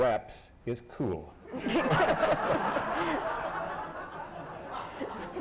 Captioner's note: laughter